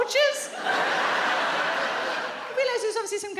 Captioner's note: audience laughs